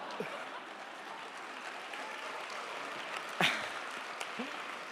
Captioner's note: audience applauding